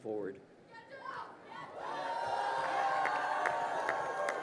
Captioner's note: crowd cheering